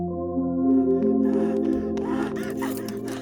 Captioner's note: shouting